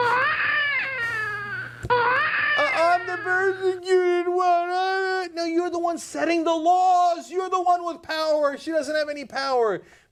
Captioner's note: baby crying